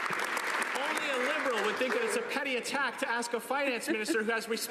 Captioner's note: some Applause